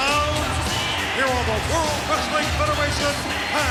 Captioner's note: crowd cheers